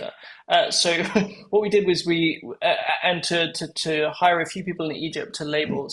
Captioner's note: laugh